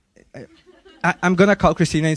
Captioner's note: audience laughing